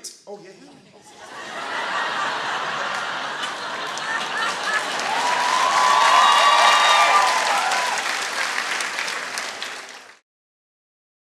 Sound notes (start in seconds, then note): 1.5 audience laughing; 5.3 audience cheering and applauding